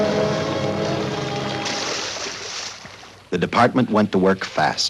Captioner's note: dramatic music; sewage splashing